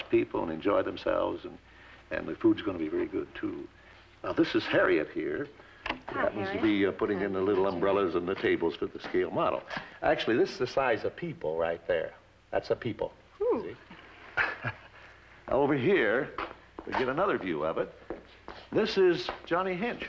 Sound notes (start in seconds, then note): 13.8 chuckles